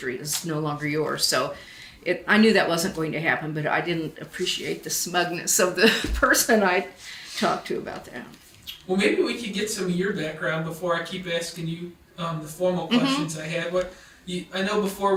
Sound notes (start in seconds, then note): 6.3 chuckles